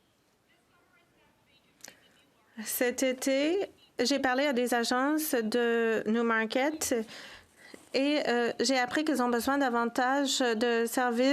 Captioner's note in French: voix de l'interprète